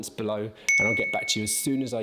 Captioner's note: bell dinging